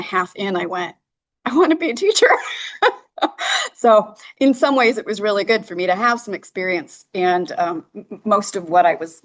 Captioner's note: laughter